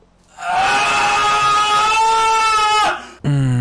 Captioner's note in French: Extrait d'un cri intense